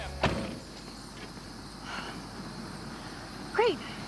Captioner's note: insects chirping